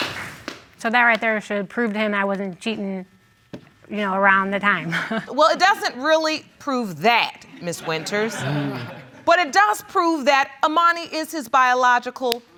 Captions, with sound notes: So, that right there should prove to him I wasn't cheating, you know, around the time. (CHUCKLES) Well, it doesn't really prove that, Ms. Winters. (LAUGHTER) But it does prove that Amoni is his biological child,